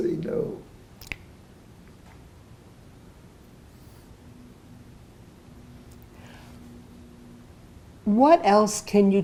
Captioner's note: pauses 6 seconds